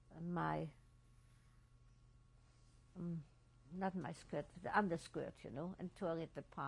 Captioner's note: pauses for 3 seconds